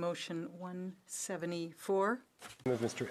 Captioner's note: speaking French